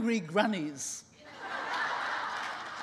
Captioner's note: laughing